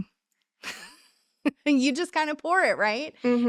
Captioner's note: laughing